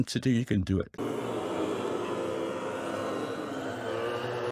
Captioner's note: zombies moaning